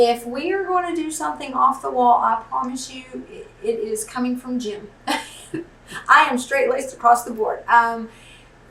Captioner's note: laughs